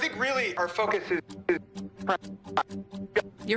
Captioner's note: glitching audio